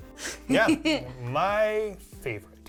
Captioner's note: laughing